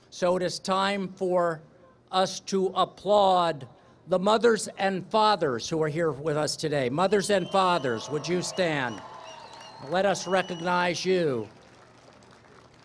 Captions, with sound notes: So it is time for us to applaud the mothers and fathers who are here with us today. [Applause, cheering] Mothers and fathers, would you stand? Let us recognize you.